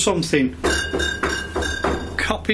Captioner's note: knocking